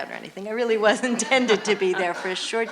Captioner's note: laughs